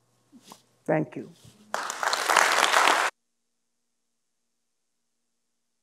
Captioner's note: audience applauding